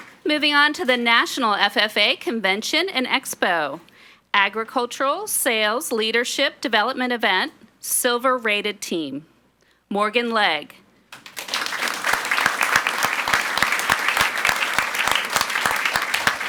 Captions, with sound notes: Moving on to the National FFA Convention and Expo, Agricultural Sales Leadership Development Event silver rated team, Morgan Legge. (audience applauds)